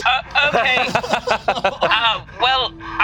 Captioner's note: laughs